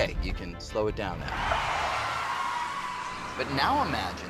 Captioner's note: tires squealing